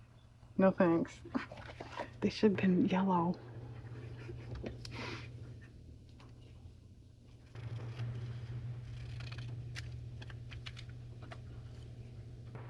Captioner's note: whispers